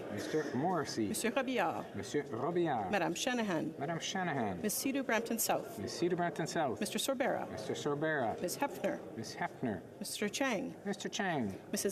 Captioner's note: calling of recorded vote